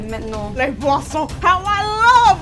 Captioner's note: speaking french